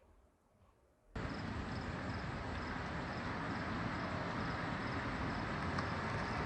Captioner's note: ambient noise, car engine sounds slowly getting closer